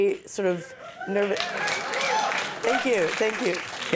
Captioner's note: audience clapping and cheering